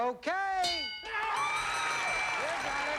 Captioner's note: cheers and applause